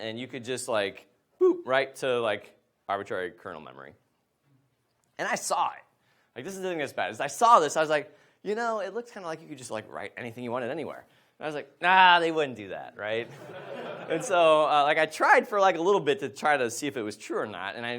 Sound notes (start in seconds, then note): 13.2 audience laughs